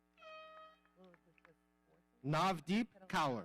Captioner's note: horn blowing